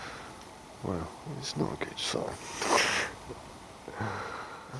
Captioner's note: laughs